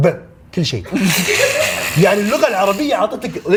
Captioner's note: laughter